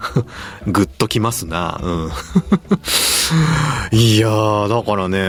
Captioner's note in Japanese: 笑い